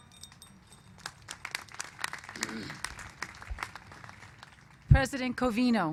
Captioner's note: applause